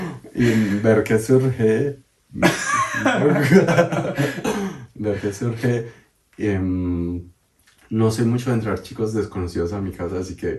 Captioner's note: laughs